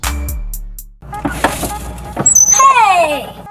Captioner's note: beeping